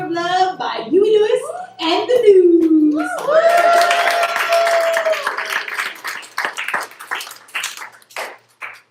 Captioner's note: applause